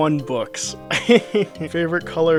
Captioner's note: laughing